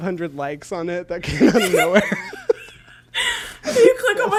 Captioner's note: both laugh